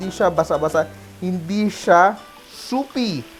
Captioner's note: sizzle